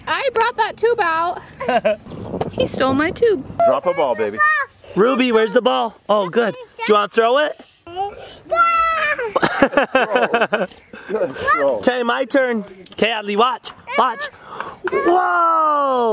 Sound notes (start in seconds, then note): 9.0 laughs